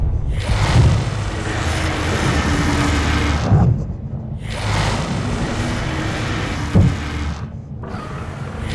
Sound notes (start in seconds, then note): 0.0 dragons roar; 0.0 dragons growl